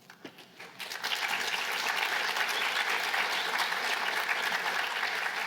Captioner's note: applause